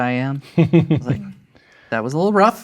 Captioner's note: chuckling